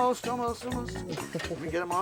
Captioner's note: Gabe giggles